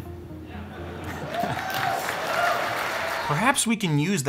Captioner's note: audience cheering; audience clapping